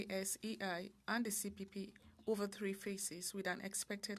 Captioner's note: speaking French